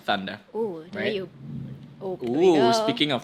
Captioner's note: sound of thunder in the background